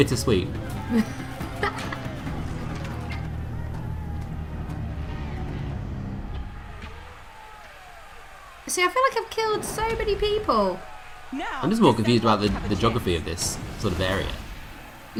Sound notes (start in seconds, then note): 0.8 laughter